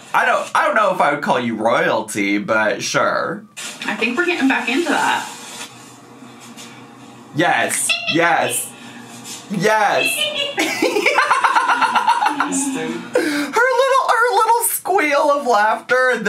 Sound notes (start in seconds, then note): 10.5 giggling; 10.5 laughing